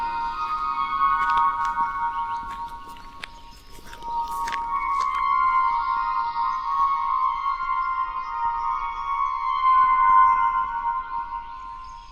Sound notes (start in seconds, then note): 2.8 gravel crunching; 9.2 mysterious music